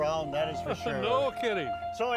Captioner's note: chuckles